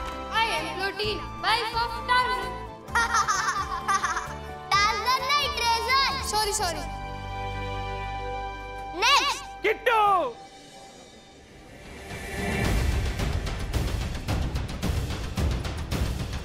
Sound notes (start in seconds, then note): 2.9 laughing